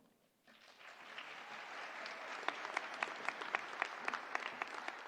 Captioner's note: audience applauding